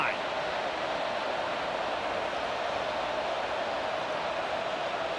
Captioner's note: crowd clamors